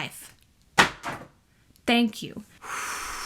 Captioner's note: book crashes on ground